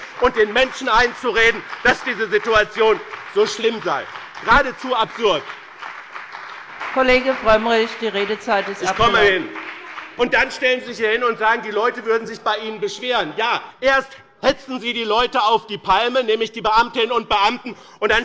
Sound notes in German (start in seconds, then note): 5.7 Beifall bei dem BÜNDNIS 90/DIE GRÜNEN und der CDU